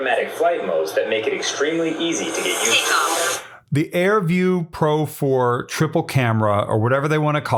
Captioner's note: drone